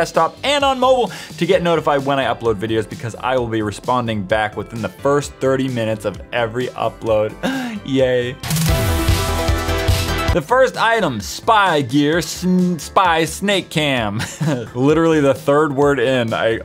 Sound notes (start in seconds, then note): 7.5 high-pitched inhale; 14.2 quick laugh at his own mistake